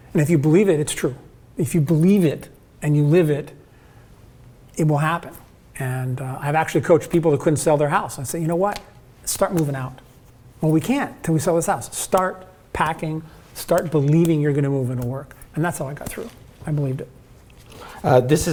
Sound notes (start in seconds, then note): 13.6 slaps hands